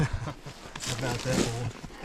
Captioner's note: laughing